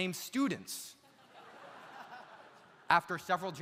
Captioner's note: audience laughs